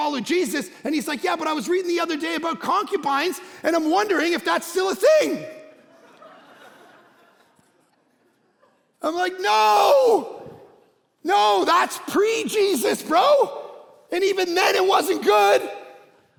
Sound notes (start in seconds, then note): 5.0 congregation laughing